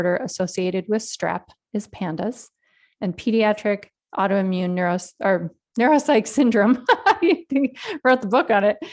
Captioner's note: laughs